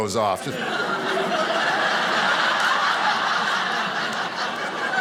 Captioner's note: audience laughing